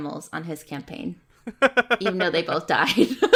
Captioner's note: laughs